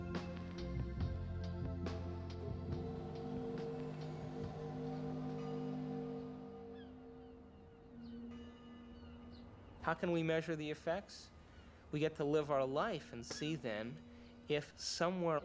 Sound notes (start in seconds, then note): 1.3 ship Horn Blowing; 4.1 bell Rings; 4.1 bird Squawking